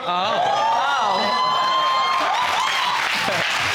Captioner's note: audience exclaiming; audience applauding